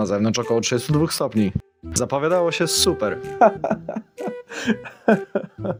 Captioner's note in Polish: Śmiech przechodzący w płacz